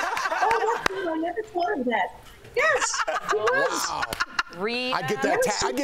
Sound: laughter

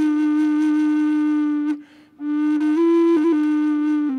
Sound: none

